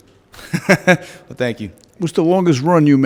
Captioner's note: laughs